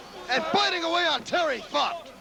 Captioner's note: crowd cheering